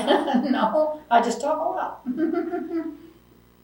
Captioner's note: laughs